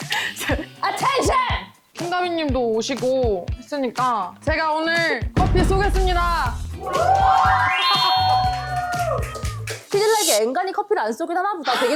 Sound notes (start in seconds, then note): 6.7 all the staff cheering